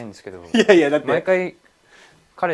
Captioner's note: laughs